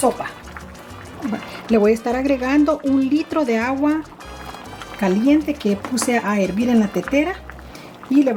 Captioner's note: water boiled in kettle